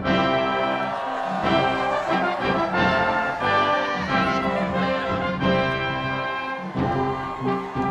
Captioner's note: cheering